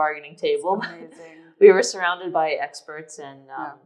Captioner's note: laughs